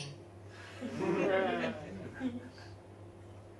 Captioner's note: audience laughs